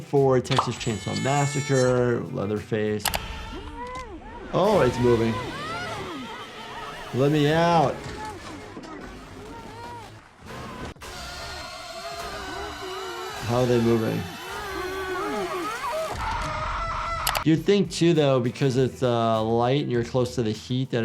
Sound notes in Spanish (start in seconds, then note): 4.2 Teddy grita; 11.1 música siniestra